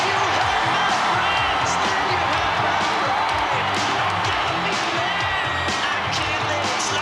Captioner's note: crowd cheering; pounding rock music